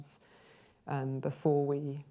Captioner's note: inhales